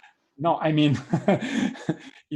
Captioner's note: laughs